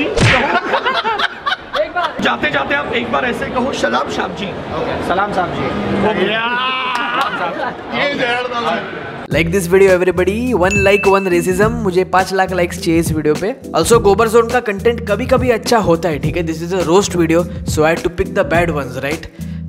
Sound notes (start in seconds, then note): 0.3 laughs; 6.2 cheers